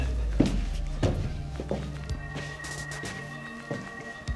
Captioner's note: shoes clacking